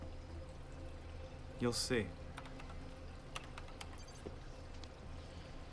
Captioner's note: keyboard clacking